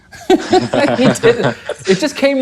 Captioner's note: laughing